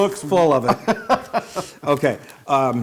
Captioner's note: laugh